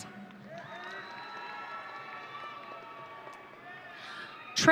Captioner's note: audience cheering